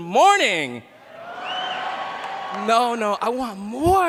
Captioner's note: cheering